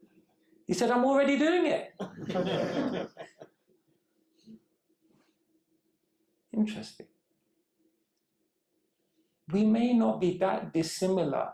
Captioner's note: laughter